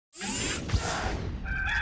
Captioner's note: electronic sliding; rooster crowing